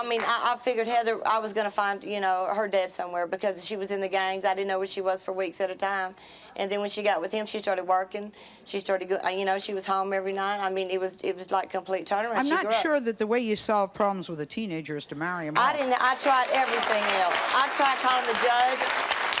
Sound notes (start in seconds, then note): 15.6 audience applauding